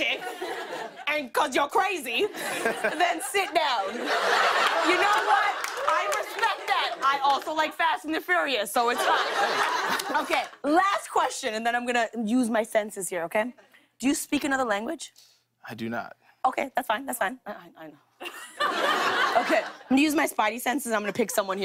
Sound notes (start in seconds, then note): 2.3 laughter; 18.2 laughter